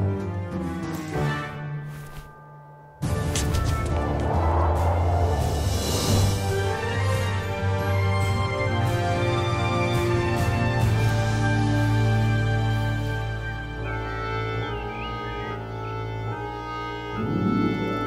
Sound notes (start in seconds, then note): 3.0 intense music; 3.9 wind whistles; 13.9 mysterious orchestral music